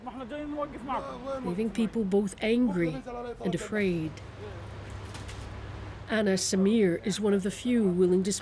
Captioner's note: speaking alternate language